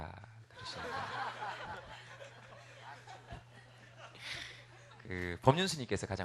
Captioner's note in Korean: 웃음